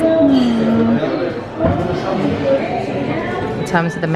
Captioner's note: people chattering